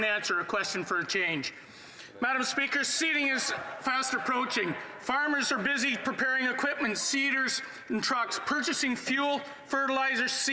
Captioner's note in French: voix de l'interprète